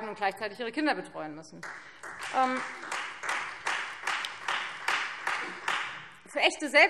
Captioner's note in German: Beifall Freie Demokraten